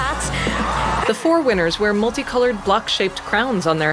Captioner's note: crowd cheering